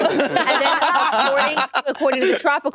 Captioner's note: participants laughing